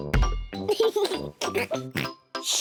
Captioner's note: giggles and oinks; giggles